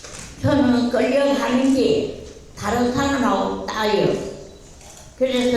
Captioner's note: speaking in foreign language